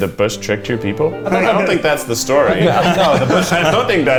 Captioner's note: all laugh